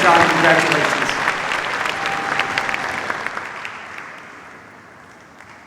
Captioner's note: cheers, applause